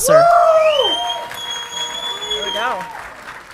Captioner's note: audience clapping and cheering